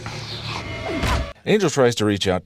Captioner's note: Faith knocked out noise